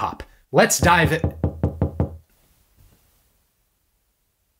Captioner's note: knocking